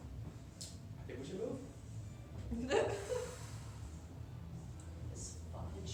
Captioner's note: exhales